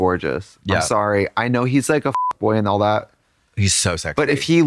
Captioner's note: beep